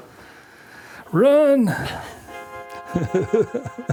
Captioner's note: laughs